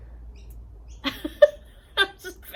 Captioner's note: laughs